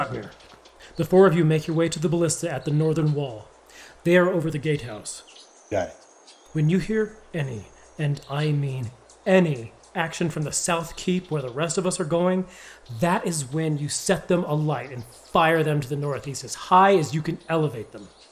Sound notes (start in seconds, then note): 6.6 hushed